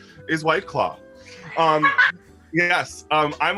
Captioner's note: laughter